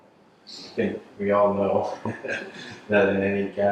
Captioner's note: chuckles